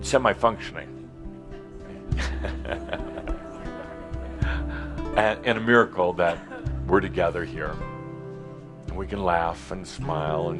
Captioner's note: some laughter, Adamus chuckles